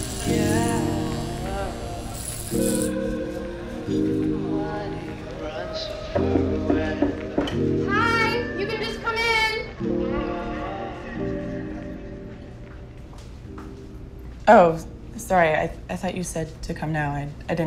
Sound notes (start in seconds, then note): 6.2 knocking on door